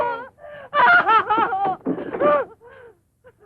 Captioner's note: crying